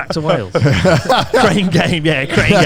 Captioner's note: laughs